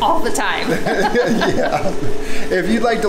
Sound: laughing

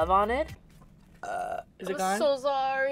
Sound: better burp

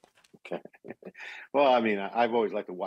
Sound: laughing

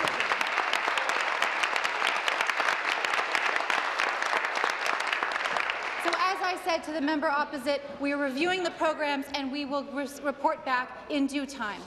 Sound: applause

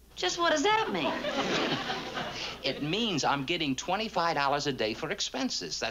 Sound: laughs

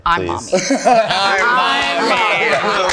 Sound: group laughing

